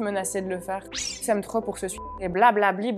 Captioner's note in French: bip